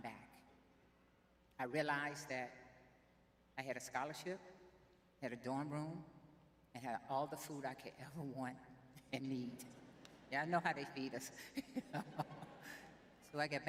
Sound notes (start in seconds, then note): 9.7 chuckles; 11.5 laughs